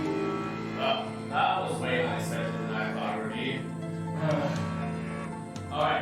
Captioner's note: sighing